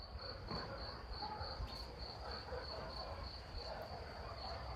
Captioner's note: crickets